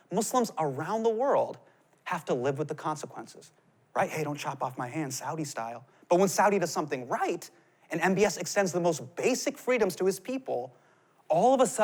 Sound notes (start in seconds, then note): none